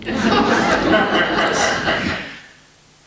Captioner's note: laughter